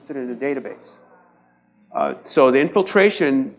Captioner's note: audience murmurs